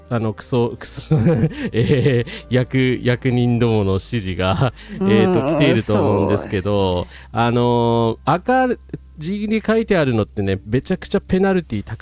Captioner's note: laughter